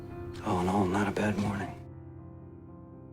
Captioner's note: voiceover